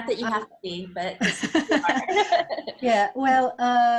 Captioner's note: laughs